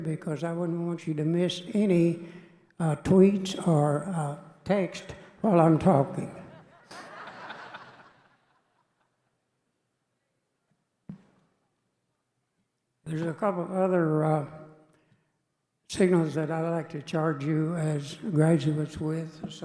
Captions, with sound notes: because I wouldn't want you to miss any tweets or texts while I'm talking. (audience laughing) There's a couple of other signals that I'd like to charge you as graduates with,